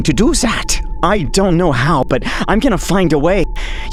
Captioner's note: super high pitched